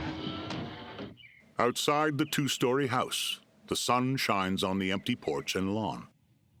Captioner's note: birds chirping